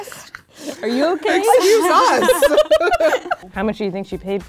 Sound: giggling

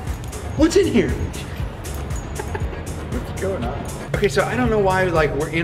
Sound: laughs

